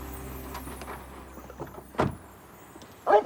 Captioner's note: barking